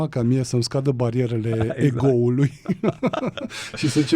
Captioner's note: laughter